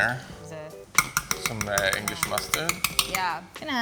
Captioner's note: spoon hits pot